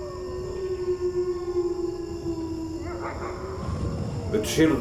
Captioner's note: wolves howl